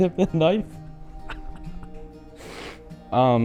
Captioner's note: chuckles